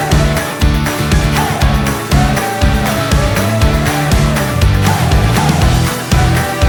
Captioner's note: applause